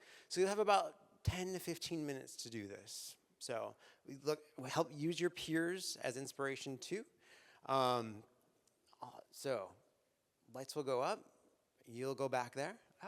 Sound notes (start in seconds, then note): none